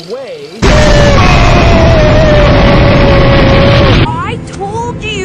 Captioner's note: explosion